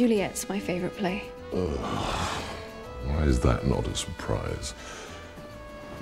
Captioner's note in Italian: sbuffo